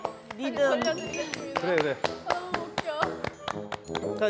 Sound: round of applause for our teacher's demonstration

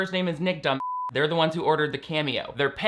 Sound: beep

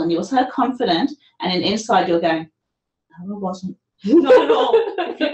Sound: laughter

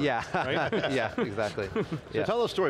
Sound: laughter

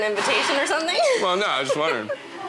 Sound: laughs

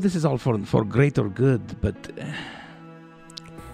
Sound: makes a sound of discomfort

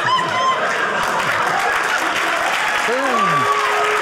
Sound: audience laughing; audience cheering

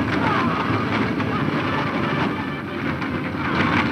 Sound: yelling men's voices; tense music

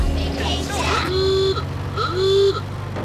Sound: honking

